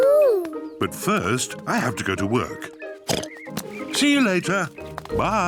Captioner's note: oinks